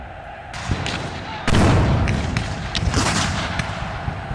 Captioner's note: guns fire